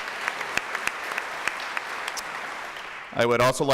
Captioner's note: applause